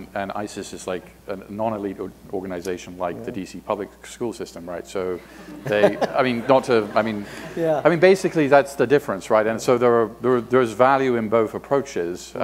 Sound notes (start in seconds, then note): 5.3 laughter